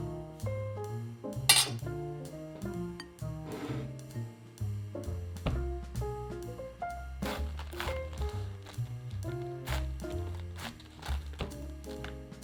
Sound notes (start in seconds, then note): 0.1 upbeat jazz music playing in the background; 7.4 knife slicing